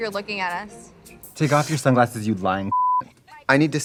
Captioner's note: beep